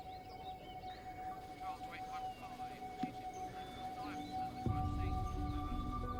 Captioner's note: birds singing; eerie music playing; police radios buzzing